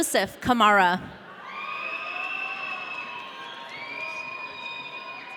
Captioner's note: audience cheering